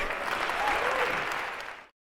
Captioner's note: applause